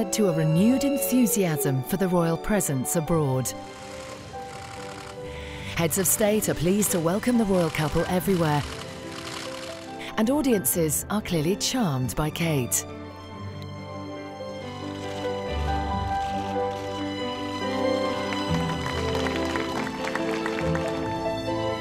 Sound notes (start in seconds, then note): 16.0 cameras clicking